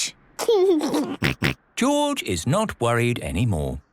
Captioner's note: giggles